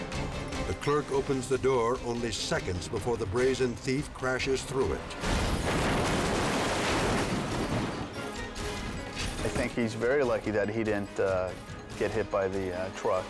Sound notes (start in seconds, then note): 0.0 tense music; 5.2 glass shatters